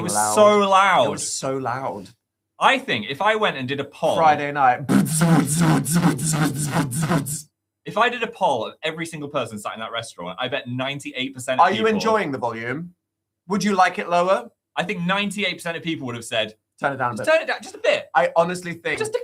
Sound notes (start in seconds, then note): 4.9 imitates speakers booming